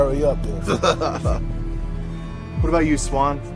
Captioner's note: Patrick laughs